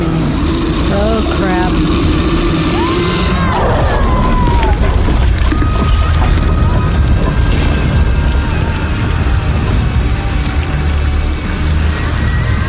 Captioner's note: screaming as he’s devoured